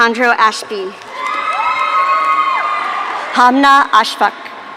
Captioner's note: audience cheering